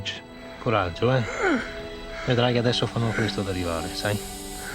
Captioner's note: speaking foreign language